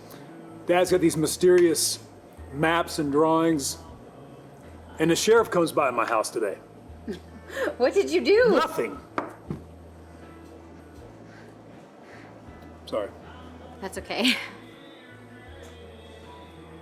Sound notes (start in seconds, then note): 7.0 chuckles